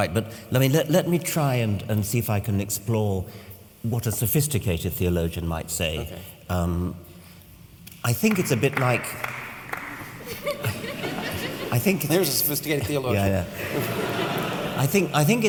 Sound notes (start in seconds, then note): 8.2 lone clapping